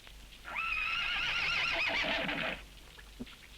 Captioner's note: fire crackling; horse whinnies